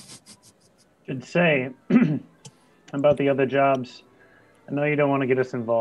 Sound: clears throat

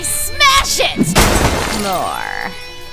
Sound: smash

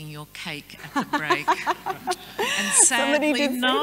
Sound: laughs

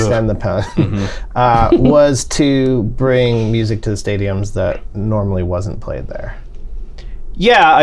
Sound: laughter

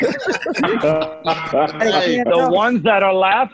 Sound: laughter

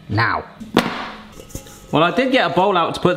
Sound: trivet clattering

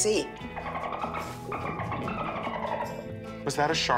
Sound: dolphin chatter

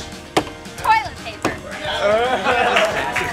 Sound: laughter

